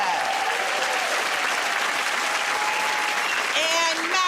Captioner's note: cheers and applause